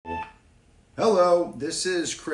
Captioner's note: machine beeps